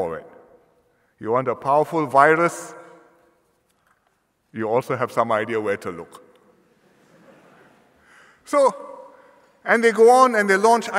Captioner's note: laughter